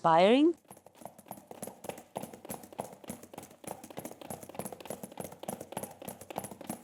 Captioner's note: coconut shells clicking